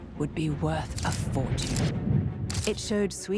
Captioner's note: camera clicking